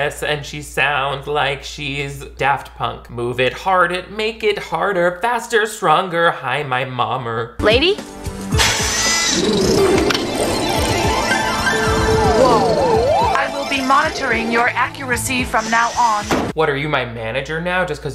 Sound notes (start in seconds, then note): 8.7 machinery whirring; 10.6 enchanting music